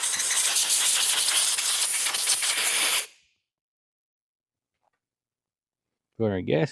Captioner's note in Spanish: Drill Whirring